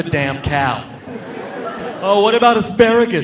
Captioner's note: audience laughing